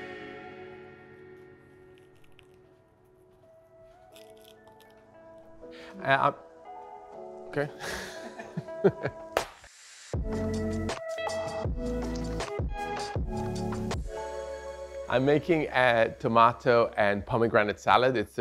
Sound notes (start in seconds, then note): 9.3 clapping; 10.8 soft music